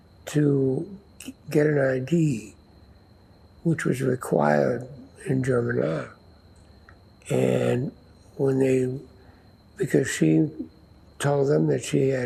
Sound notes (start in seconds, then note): none